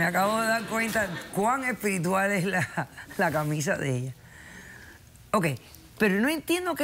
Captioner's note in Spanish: risas del público